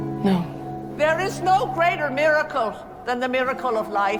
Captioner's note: voiceover